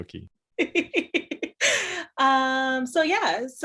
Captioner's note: laughs